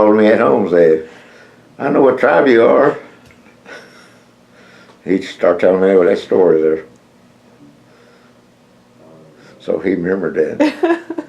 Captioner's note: laughs